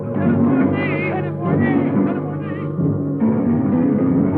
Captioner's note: men yelling; tense instrumental music